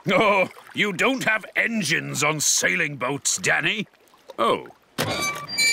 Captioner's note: chuckling